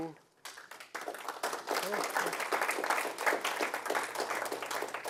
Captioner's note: applause